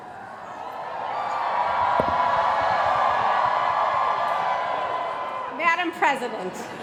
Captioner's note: cheering